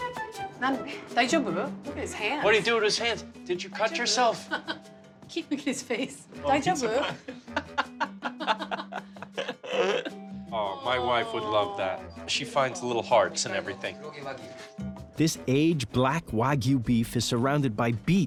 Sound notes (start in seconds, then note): 6.9 laughs